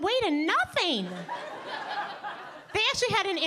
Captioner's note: audience laughing